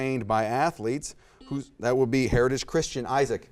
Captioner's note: buzzer beeps